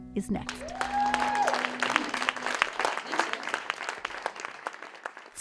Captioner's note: applause